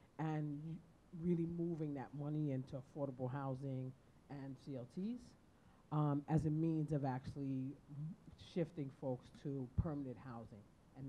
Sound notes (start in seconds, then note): none